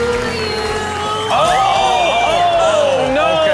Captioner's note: patrons screaming; crowd and hosts gasping